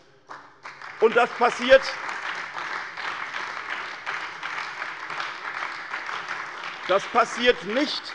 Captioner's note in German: Beifall bei der SPD und der CDU